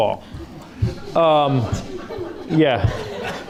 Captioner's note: audience laughing